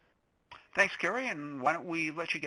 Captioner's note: voiceover